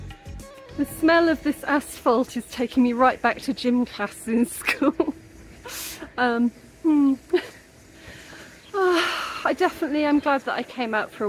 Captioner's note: sigh